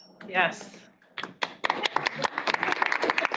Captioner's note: applause